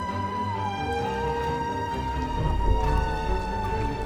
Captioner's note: rock crackling